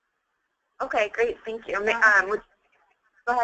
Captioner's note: voiceover